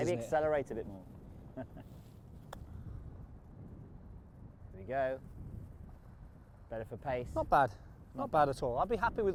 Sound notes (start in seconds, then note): 4.3 laughs